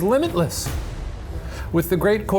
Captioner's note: dramatic whooshing